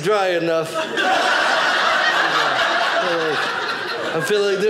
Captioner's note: audience laughing